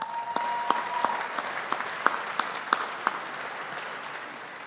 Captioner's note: audience applauding